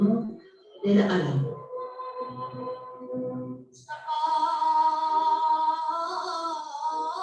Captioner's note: non-english speech